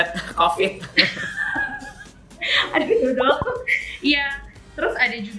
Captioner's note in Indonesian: Laugh